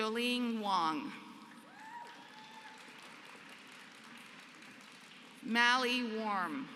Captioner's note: applause